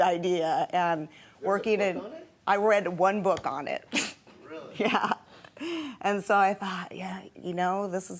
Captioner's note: laughs